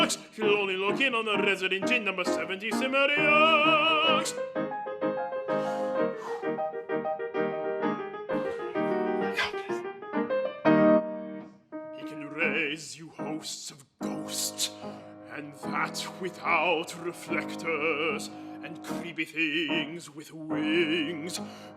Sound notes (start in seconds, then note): 6.1 whispers; 6.6 piano continues; 9.0 whispered